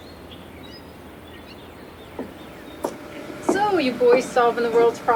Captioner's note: birds chirping